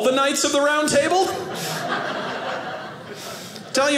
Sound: audience laughing

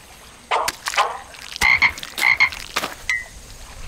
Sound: croaking

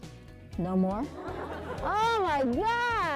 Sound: students laughing

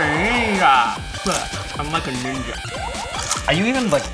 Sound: spits out chips

